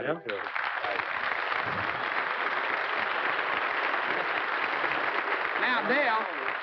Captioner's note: applause